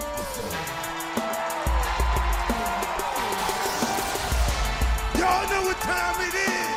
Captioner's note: crowd cheering